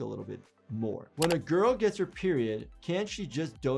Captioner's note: keyboard keys clicking